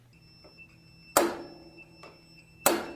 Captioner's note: whack